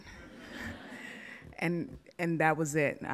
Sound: audience laughs

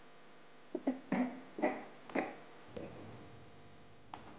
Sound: woman chokes

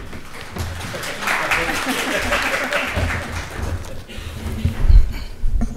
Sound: audience applauds

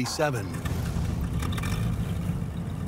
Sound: engine revving

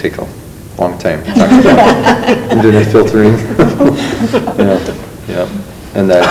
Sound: loud laughter

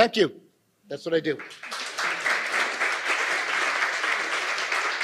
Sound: audience applauding

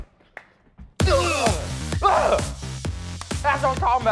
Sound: thumps his chest; grunt

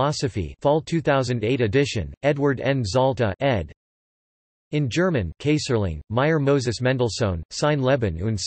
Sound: in German

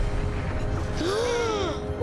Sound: gasping

